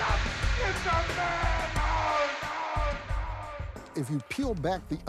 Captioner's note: echoing